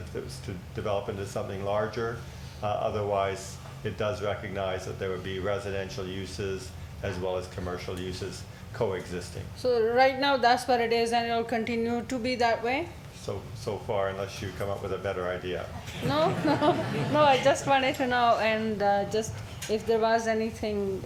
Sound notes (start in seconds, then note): 15.8 laughs; 15.8 crowd laughing